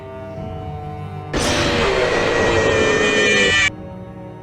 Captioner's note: roars, and screams horrifically!